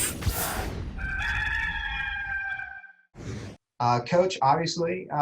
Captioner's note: cock crows